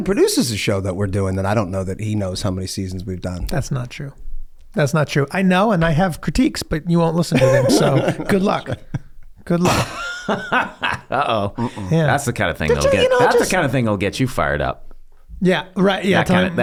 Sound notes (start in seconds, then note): 7.3 laughing; 12.6 laughs